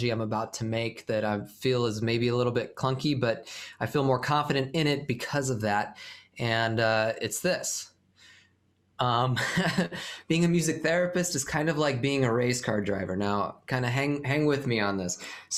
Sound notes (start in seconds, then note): 9.3 laughter